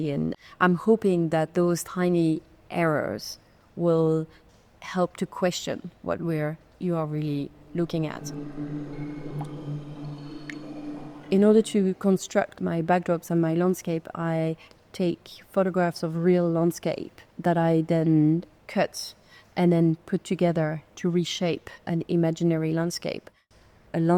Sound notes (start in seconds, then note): 7.4 water dripping; 8.6 pensive music